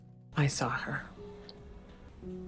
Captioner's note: voiceover